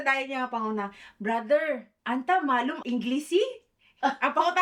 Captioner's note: speaks arabic